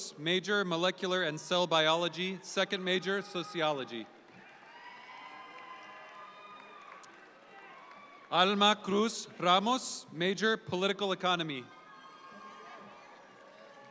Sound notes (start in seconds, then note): 4.1 audience applauds